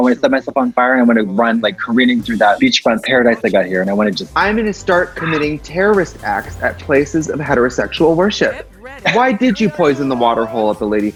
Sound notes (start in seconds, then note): 8.6 laughs